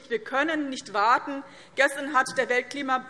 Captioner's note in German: none